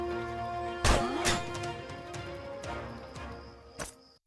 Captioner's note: dramatic music; sword slashing